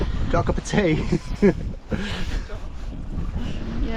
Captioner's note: laughing